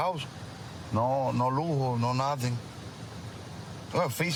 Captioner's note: speaking spanish